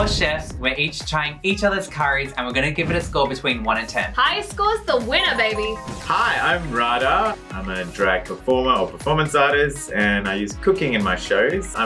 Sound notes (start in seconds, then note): 5.7 dings